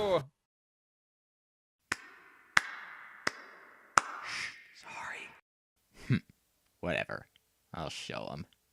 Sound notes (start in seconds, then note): 1.7 one guy claps; 4.8 whispering